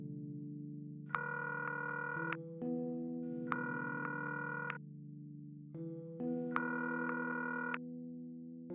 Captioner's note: line ringing